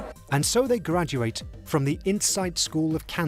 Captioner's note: voiceover